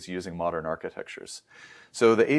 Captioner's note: inhales